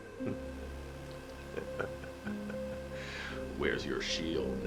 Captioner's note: X Knight laughing